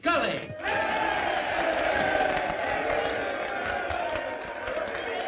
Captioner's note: crowd cheering